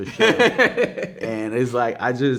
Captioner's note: man laughing